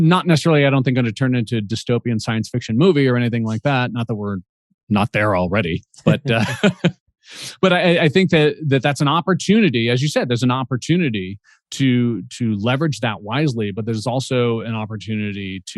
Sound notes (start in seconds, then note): 5.8 chuckles